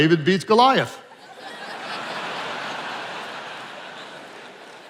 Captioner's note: attendees laughing